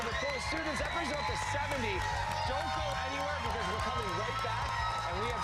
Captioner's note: cheers and applause